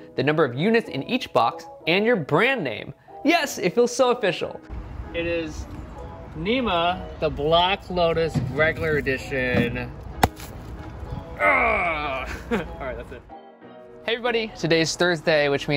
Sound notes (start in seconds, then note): 11.4 grunts